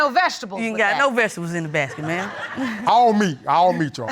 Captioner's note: audience laughing